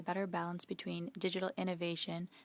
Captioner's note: speaking in French